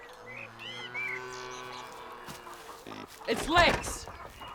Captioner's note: cow moos